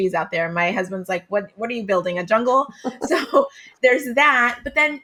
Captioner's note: laughs